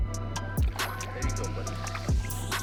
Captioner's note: water splashing